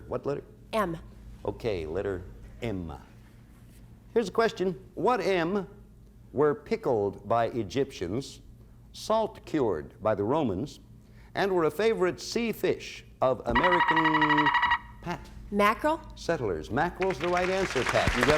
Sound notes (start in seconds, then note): 13.5 buzzer sounds